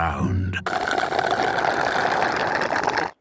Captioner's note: slurping